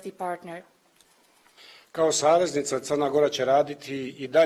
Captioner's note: speaks in Montenegrin